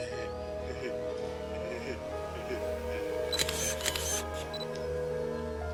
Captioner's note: laughing Innocently